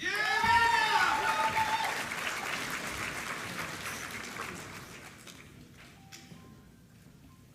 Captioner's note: applause